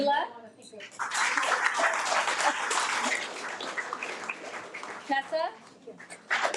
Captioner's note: audience applauding